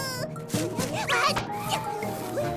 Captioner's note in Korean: 놀라는 소리